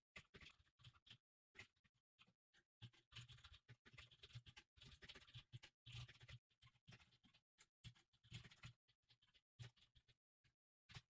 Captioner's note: typing sounds